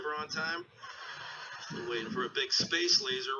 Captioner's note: audience laughing